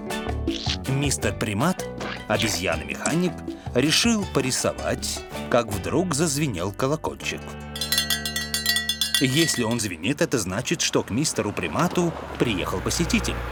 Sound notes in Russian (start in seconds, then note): 7.7 звон колокольчика